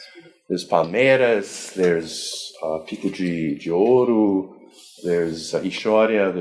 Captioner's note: foreign language